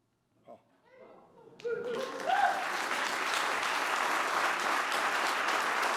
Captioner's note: applause